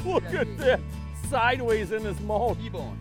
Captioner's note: laughing